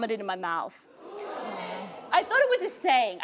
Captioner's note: audience gasps